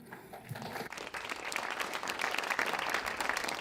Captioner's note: applause